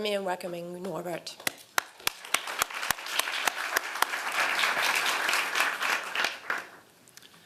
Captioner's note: applause